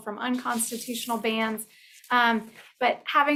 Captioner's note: pages rustling